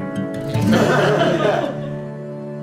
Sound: laughter

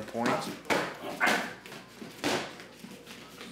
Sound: grunting

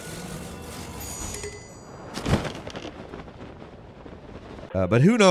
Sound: game chimes

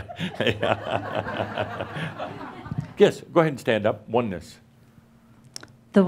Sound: laughter

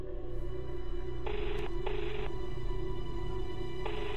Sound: phone ringing

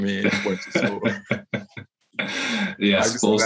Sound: laughs

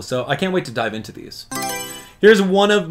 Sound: Mario Selection Sound

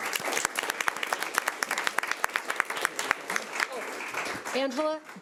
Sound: audience clapping

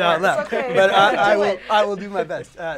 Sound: laughter

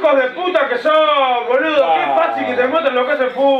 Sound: cursing

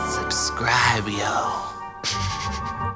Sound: laughing

